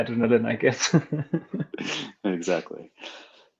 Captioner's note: laughing